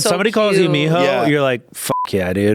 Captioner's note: speaking foreign language; beep